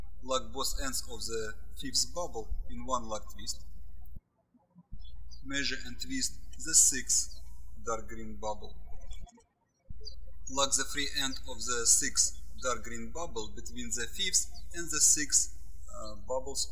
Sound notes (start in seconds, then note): 4.9 birds chirping